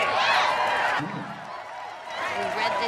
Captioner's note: cheering